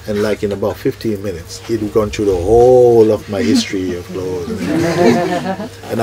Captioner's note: soft laughter